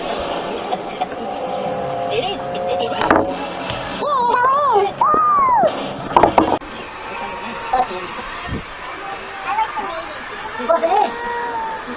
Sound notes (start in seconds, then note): 3.0 bang